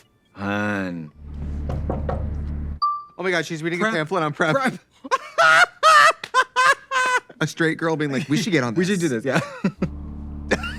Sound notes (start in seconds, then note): 1.6 knocking on window; 4.4 both laughing; 6.2 Katya clapping